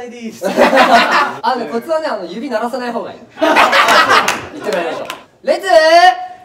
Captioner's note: laughs